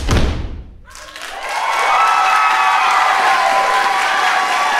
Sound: audience clapping; audience cheering

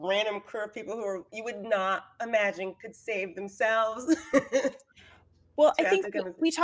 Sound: laughs

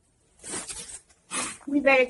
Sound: Magenta Sighing

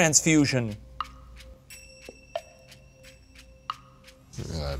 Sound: timer ticking

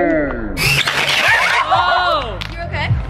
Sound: record screeching

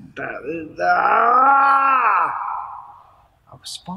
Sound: yelling

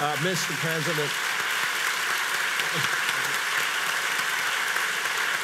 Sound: audience applauds

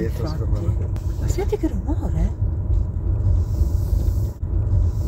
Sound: flowsshhh

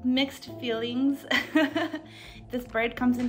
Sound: laughing

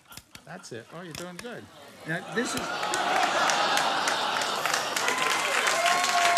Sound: audience cheering

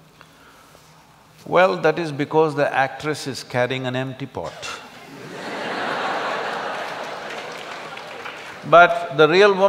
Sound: laughter\Applause

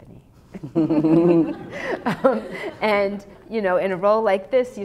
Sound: laughter

